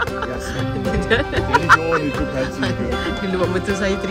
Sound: laugh; speaking German

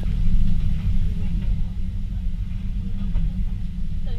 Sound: wind whooshing

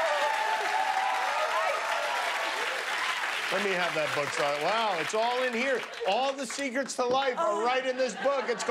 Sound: cheers and applause

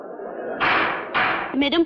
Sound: gavel Banging

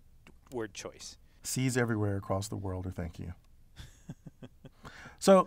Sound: laugh

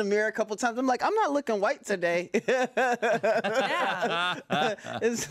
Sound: laughs

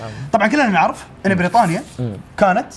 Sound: none

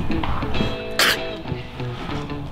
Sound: spits

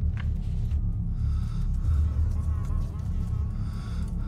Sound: breathes deeply; insect buzzes

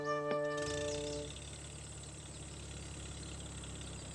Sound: motor

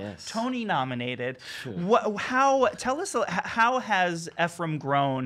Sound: scoffs

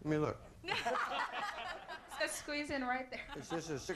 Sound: audience laughing

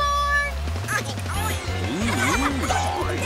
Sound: oinking, mooing; clucking

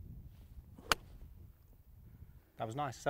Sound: hitting ball

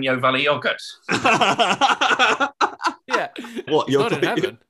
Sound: laughter

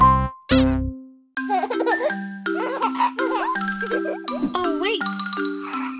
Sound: child giggling

